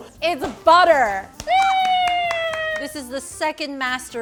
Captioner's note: congratulatory applause